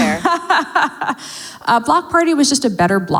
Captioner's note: laughs